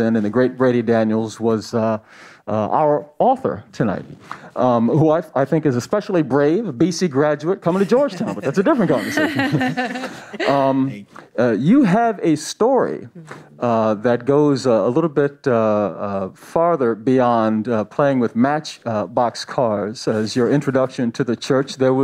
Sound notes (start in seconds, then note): 9.5 panelists chuckle